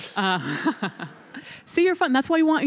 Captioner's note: laughter